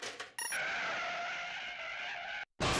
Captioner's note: screeching